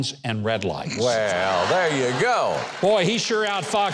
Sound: audience laughing

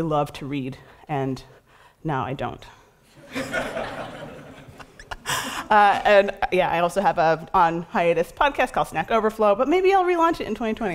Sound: laughter

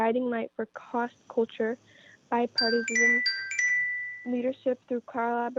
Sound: chime

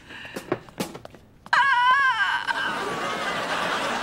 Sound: groaning

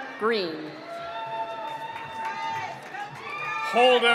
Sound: cheering

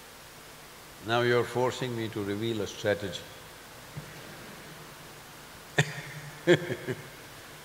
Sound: few laugh

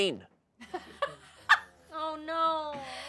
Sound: audience laughing

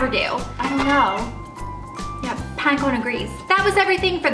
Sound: meow

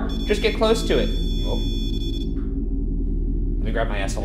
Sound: REM-Pod beeping

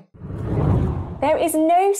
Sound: wind blows

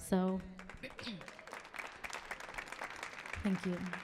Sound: audience cheering

